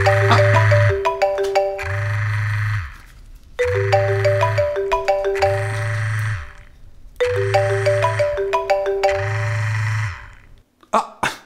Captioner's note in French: Sonnerie de portable